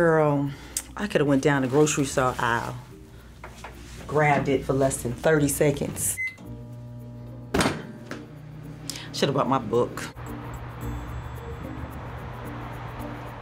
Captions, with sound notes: - Girl, I coulda went down the grocery store aisle, grabbed it for less than 30 seconds. (microwave beeps) Shoulda brought my book.